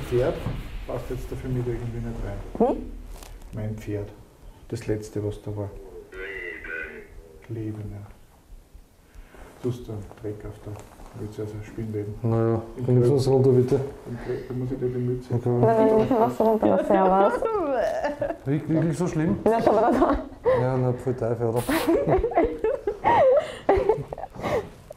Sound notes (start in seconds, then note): 16.0 laugh